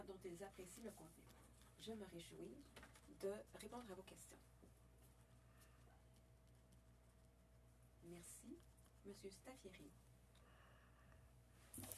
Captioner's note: speaking French